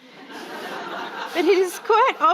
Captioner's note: audience laughing